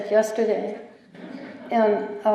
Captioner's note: chuckling